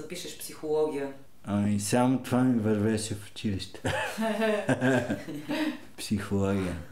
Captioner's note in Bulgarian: смеят се